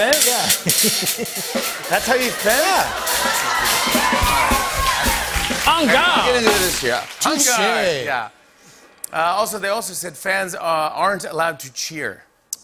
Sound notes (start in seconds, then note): 3.5 cheers and applause